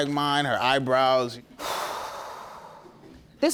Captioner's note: judge lake sighing